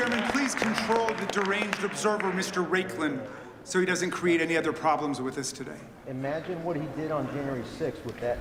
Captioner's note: applause